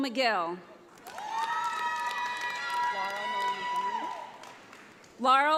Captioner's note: audience applauds